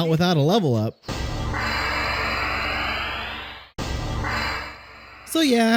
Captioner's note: obnoxious level up sounds